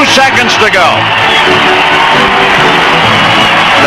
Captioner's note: crowd cheering